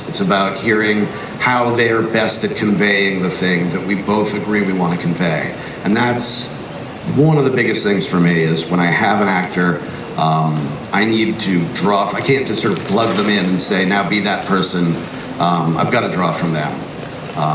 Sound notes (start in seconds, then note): none